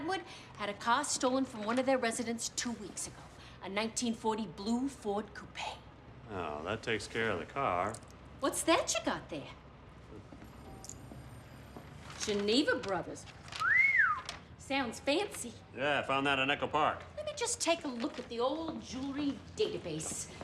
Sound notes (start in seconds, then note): 13.5 whistling